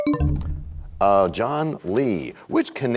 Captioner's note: bell chimes, time expires